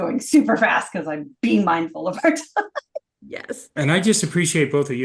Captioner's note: laughing